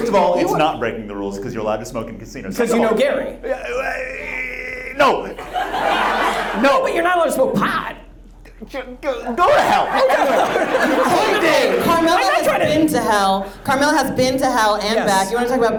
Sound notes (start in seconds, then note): 3.8 stammers; 9.5 audience laughs